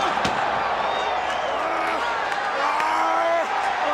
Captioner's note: crowd cheering